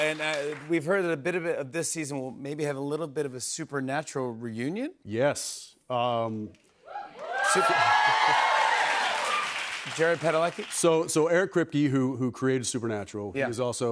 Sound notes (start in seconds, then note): 6.9 cheers and applause